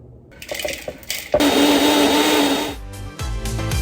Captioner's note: mixer whirring; pistachios rattling; blender whirring; upbeat music